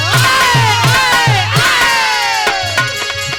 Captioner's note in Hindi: चीखने की आवाज़